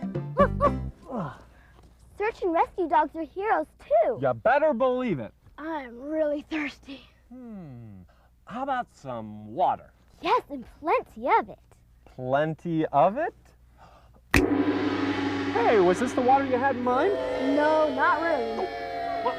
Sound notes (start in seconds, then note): 14.1 fingers snap; 14.3 gong; 19.2 children booing